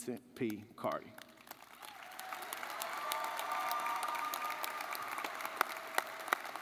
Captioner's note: audience cheering and clapping